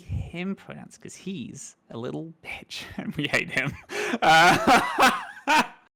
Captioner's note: laughs